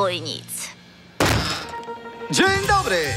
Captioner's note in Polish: otwieranie drzwi